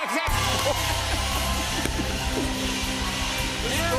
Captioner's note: cheers and applause